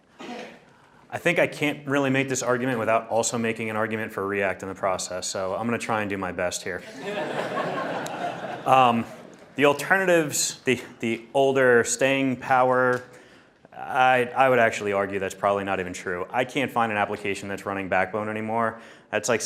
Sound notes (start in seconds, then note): 6.8 audience laughing